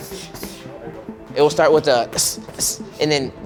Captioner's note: hissing